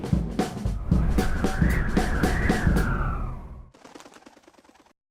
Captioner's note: wind whistling